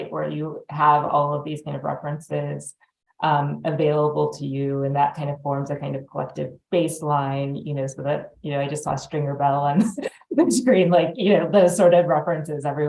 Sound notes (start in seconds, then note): 10.5 laughs